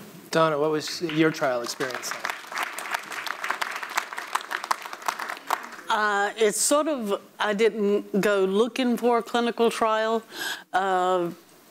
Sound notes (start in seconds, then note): 0.8 audience applauds